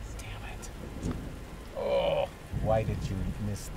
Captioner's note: groaning